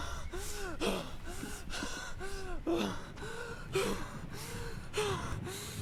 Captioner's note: grunting sounds